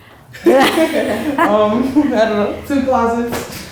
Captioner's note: laughing